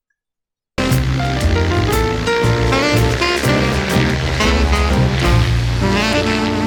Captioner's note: smooth jazz music; plane propeller whirring